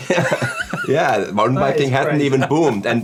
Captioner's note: laughing